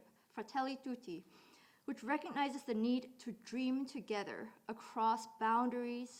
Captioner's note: none